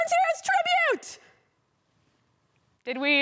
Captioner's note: silence